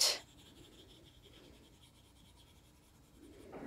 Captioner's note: pencil scratching